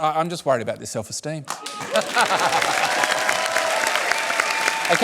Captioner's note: cheering and applause